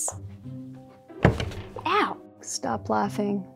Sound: thud

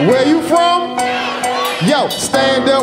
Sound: audience shouting

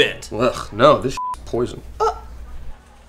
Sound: beep

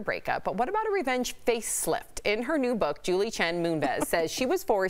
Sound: laughter

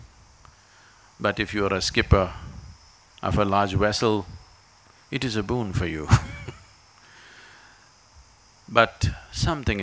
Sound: laughs

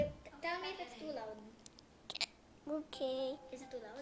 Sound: hiccup

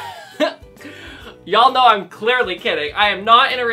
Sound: laughter

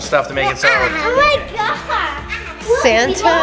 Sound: overlapping chatter

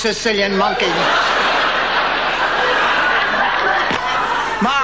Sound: audience laughing

